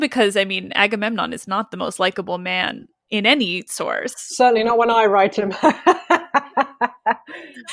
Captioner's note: laughs